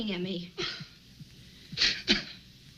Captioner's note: Jack crying